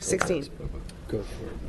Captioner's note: gavel bang